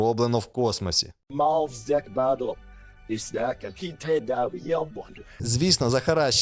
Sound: unearthly language

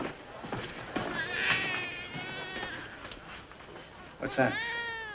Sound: baby crying

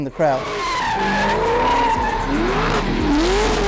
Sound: tires squealing; engines roaring

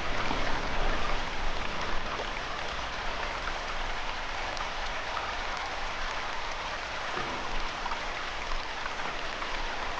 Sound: water, crickets

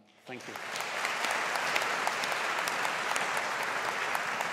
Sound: audience applauds

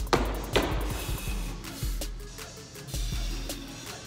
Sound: exhales

